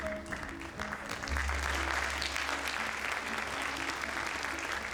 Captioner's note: audience applauds